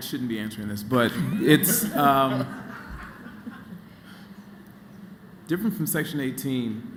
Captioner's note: laughter